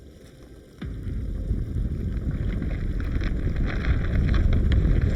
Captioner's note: ominous music; ground rumbling